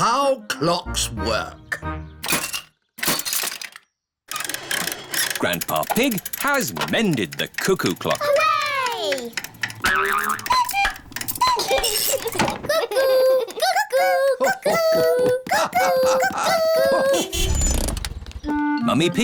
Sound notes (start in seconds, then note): 10.8 clock chimes; 11.3 laughs; 18.5 horn honks